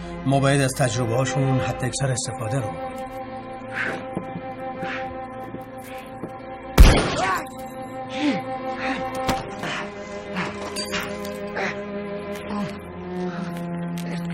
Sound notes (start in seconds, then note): 3.6 heavy breathing; 6.8 gunshot; 9.4 panting